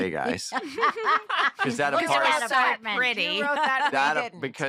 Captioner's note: laughter